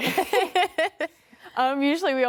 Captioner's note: laughs